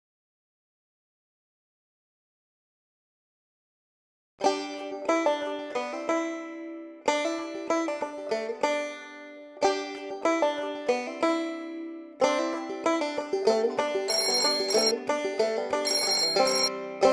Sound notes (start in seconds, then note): 14.0 phone Ringing